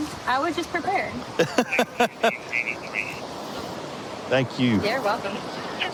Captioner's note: laughing